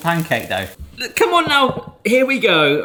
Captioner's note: sizzling